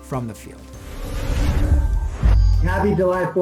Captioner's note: logo whooshing